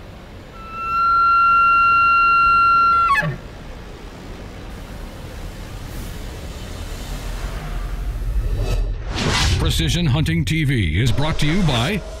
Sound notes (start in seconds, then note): 0.4 elk call bugling; 8.2 electronica whooshing